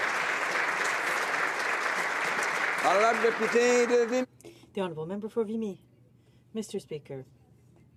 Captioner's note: applause